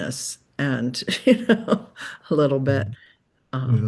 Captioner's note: chuckles